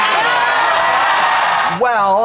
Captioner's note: audience roars